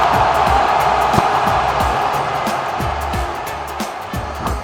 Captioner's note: cheering